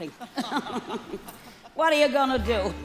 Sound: laughter

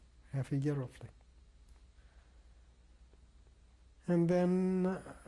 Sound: pauses for 3 seconds

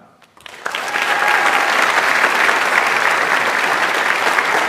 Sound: audience applauds

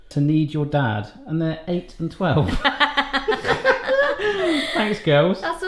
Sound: laughing

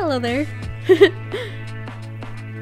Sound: laughs

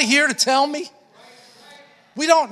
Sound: congregation affirming

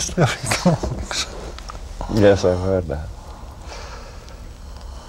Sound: laughter

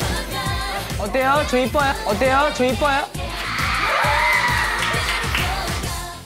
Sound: huge shouting

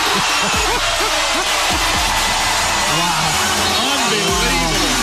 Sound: laughs

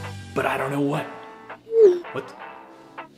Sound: text message sounds

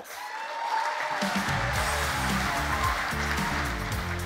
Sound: cheering and applause

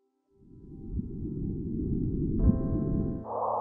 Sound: space noises

